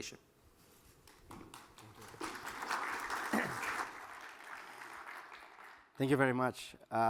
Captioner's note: applause